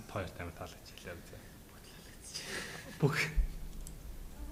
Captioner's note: laughs